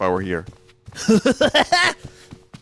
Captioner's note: Krusty laugh